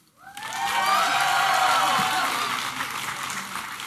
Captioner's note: applause and cheering